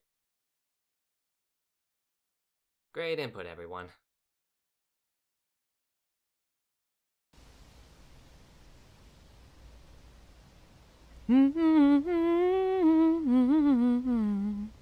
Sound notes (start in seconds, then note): 4.7 wind gently blows; 11.3 Kid 13 hums a chipper tone